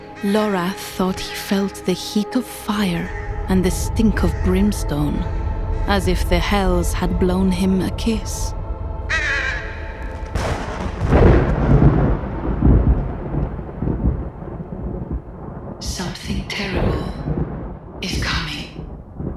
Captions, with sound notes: Lorath thought he felt the heat of fire and the stink of brimstone, as if the Hells had blown him a kiss. [thunder crashing] "Something terrible... is coming..."